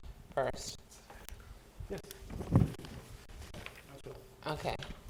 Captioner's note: speaking quietly